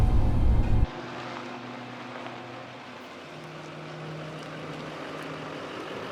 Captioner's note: truck engine humming